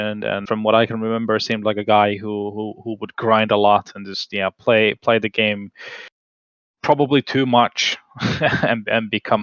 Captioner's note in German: lacht